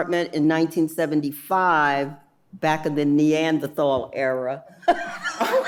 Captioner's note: laughing